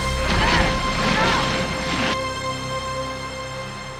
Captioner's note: ladies groaning